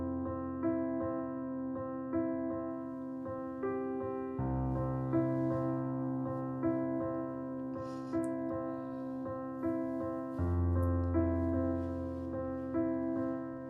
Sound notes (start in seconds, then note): 7.6 sniffing; 11.2 rustling